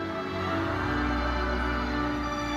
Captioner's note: audience cheering; lively uplifting music continues